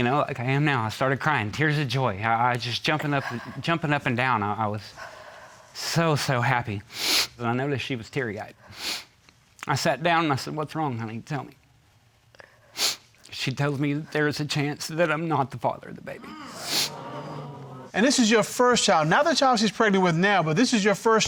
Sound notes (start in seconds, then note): 8.7 sniffles; 16.2 audience gasps